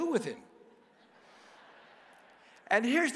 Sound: congregation laughs

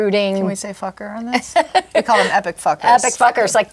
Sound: laughs

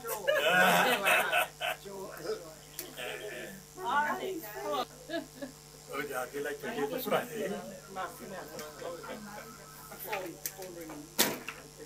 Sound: laughter

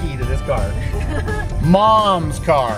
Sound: laughing

